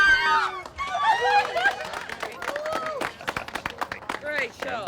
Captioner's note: cheers and applause; laughs